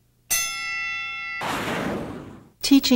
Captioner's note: bell rings